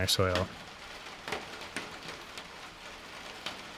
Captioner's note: rain pattering